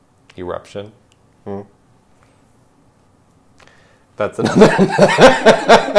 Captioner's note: laughing